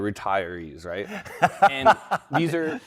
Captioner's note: laughing